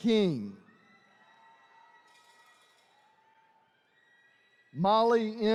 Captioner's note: attendees cheering